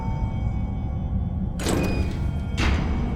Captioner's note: door opening